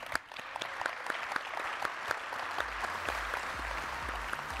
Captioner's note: audience applauding